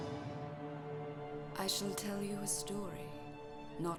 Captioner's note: voiceover